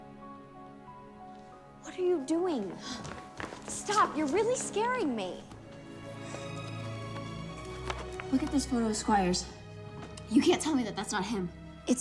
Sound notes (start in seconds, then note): 3.1 Eliza gasps softly